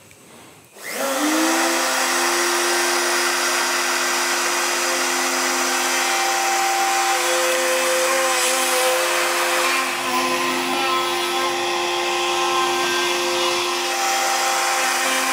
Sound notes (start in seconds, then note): 0.6 loud milling